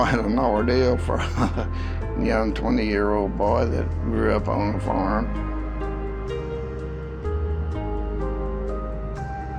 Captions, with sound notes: That was quite an ordeal for a... [chuckles]young 20 year old boy that grew up on a farm.